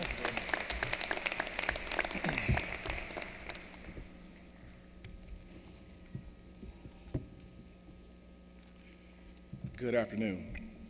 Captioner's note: applause